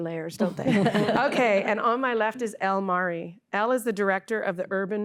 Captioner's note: laughter